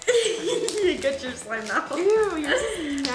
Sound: laughs

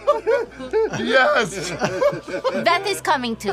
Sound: laughter

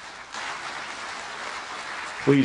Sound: applause

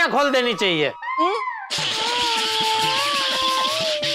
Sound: laughs; comical music

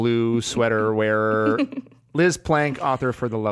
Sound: laughs

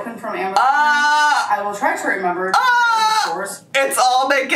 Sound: yelling

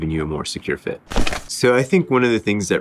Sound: paper crumpling

